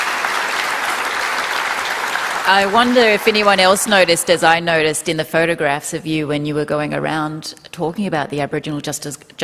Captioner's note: applause